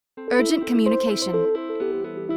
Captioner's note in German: Voiceover